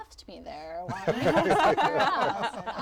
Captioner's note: laughter